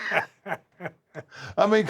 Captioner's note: laugh